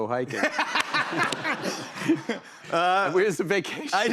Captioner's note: laughter